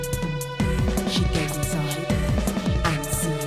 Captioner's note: recites